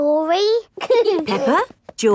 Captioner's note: both giggling